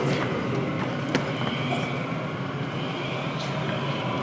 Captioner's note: wind howls